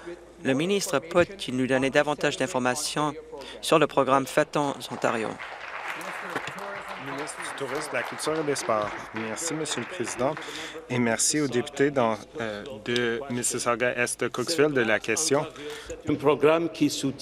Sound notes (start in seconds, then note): 9.2 applause